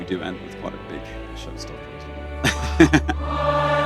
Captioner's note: laughs